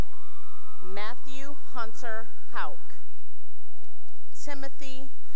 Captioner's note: cheering and applause; cheering